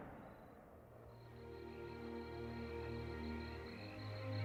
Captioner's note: gunshot; crickets chirping